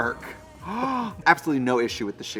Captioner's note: Trixie gasps